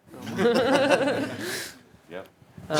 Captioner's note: laughter